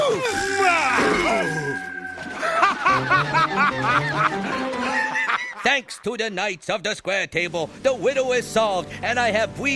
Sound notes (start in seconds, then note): 0.0 screaming; 2.0 splashing; 3.9 laughing